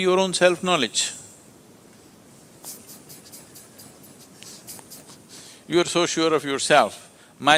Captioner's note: laughs